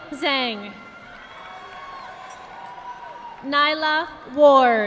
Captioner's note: audience applauding